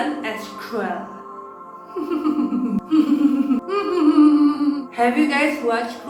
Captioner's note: evil laugh